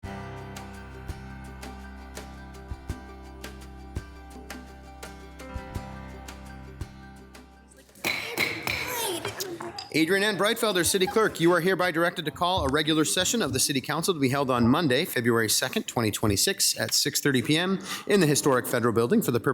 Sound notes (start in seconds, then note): 0.3 light music; 8.0 gavel pounds